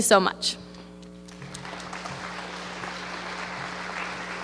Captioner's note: applause